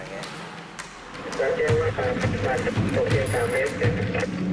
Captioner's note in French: Audio parlé en langue étrangère